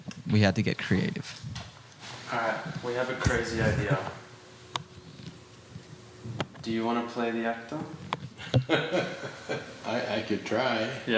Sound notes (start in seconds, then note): 3.3 chuckling; 8.7 chuckling